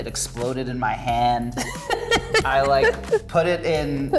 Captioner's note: laughs